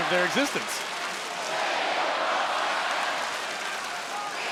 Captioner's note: spectators cheering